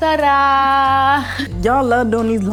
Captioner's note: speaks in foreign language